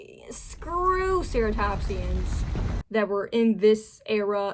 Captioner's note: angry sounds crescendo